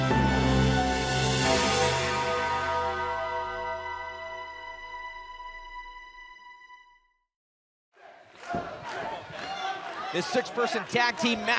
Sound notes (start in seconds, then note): 1.0 bell tolls; 8.0 fans chanting